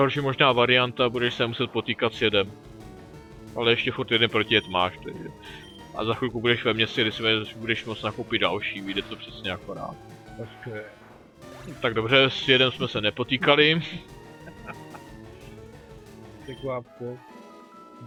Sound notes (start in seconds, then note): 14.4 laughs